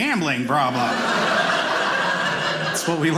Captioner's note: audience laughing